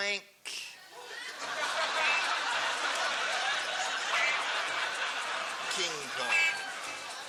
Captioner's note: laughter